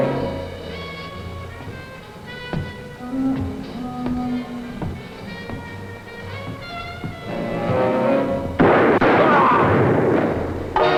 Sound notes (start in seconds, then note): 3.6 gun shots